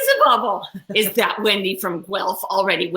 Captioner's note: laughs